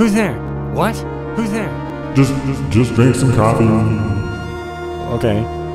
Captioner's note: echo